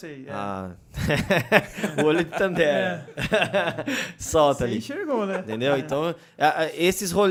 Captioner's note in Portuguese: risos